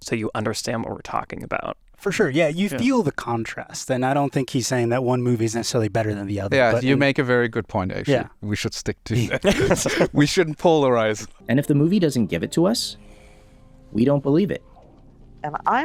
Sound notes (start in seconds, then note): 9.1 all laughing